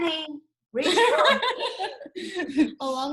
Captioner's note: group laughs